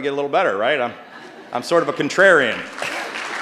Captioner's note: applause